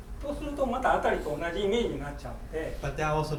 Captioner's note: speaking in foreign language